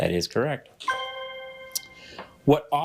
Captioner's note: bell dings